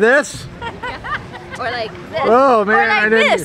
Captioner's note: laughter